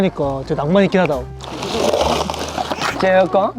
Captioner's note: pouring sound